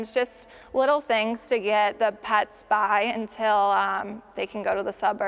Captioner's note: none